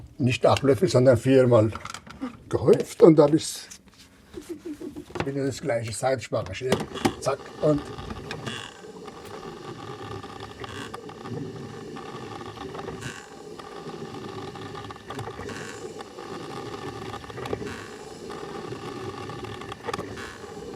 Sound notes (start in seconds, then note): 8.9 coffee machine gurgles